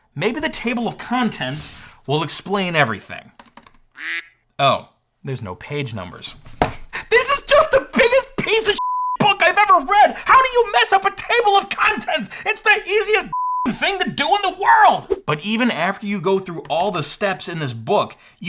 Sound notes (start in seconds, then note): 8.8 beep; 13.3 beep